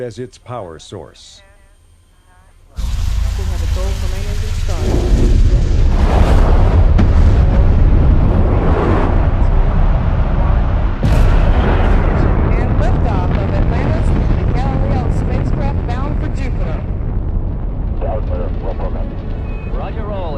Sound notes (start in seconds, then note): 7.3 rocket blasting